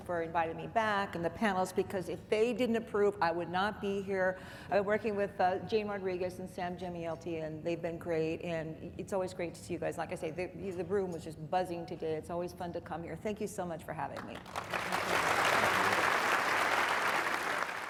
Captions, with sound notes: for inviting me back and the panelists because if they didn't approve I would not be here. Working with Jane Rodriguez and Sam Jemielity, and they've been great and it's always great to see you guys. Like I say the room was just buzzing today. It's always fun to come here. Thank you so much for having me. (applause)